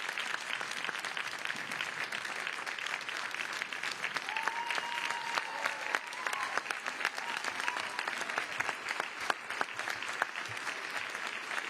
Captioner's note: applause